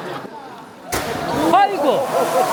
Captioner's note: slap!!!